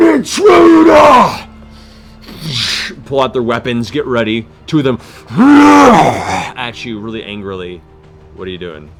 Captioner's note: growl